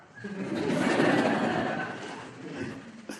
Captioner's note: laughter